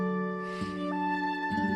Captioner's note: none